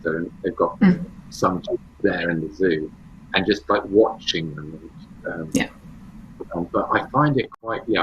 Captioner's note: wolves